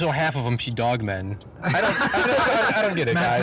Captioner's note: all laughing